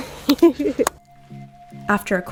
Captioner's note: laughing